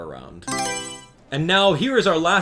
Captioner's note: Mario Selection Sound